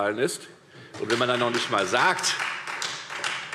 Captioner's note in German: Beifall Freie Demokraten